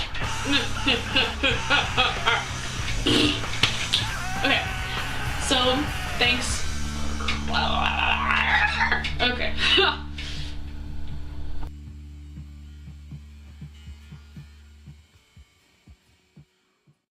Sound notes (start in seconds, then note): 6.1 velocaraptor noises